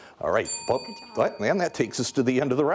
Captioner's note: bell ringing